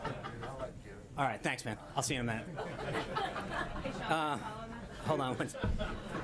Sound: laughter

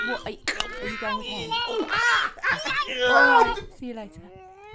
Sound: yelling

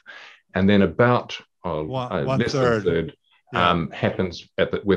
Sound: chattering

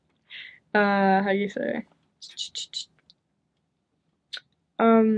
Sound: shushing

